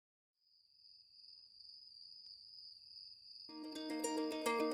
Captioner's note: crickets chirping; calm music